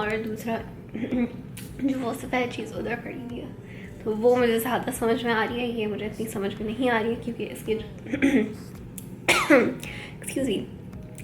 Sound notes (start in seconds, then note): 0.9 clears throat; 9.2 coughs; 9.3 clears throat